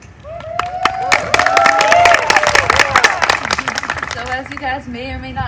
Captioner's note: applause